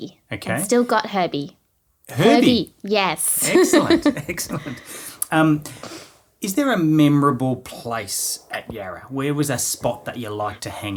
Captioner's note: both laughing